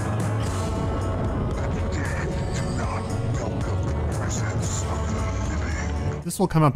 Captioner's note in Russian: голос становится практически неслышным